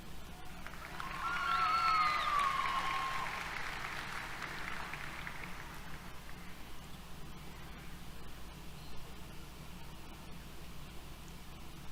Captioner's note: applause, Cheers